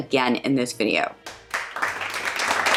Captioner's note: applause